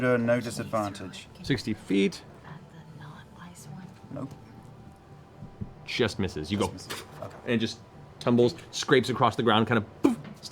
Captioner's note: knife sound